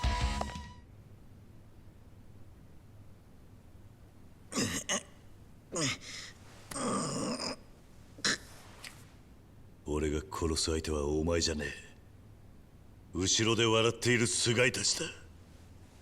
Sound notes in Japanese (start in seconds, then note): 4.5 咳払い; 6.7 うめき声